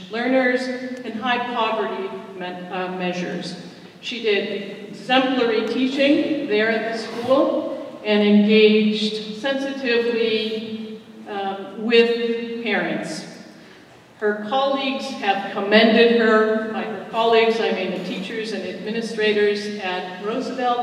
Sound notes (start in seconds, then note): none